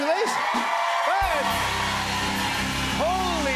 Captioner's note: cheers and applause